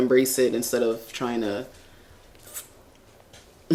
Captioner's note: shrinking noise